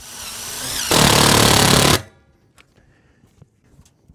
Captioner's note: drill whirring